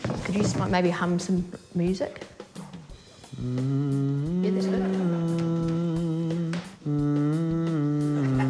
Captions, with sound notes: Could you just maybe hum some music? - (HUMS HAUNTING TUNE) - Yeah, that's good.